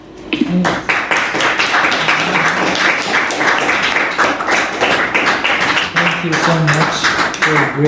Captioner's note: applause